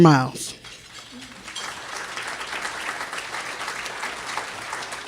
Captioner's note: audience applause